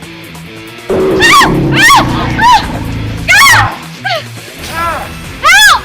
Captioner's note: scream; roar